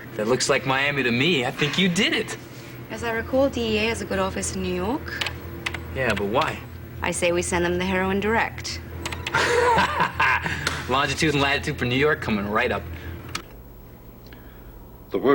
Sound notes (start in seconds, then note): 9.2 laughing